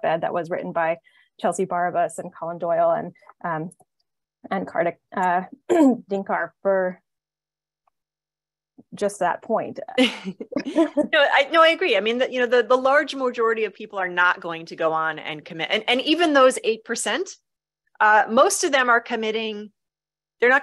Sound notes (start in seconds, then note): 10.1 chuckles